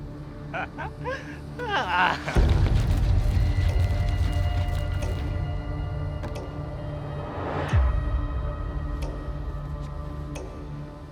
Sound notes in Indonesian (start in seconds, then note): 0.4 tertawa